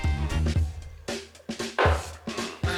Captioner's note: glass clinking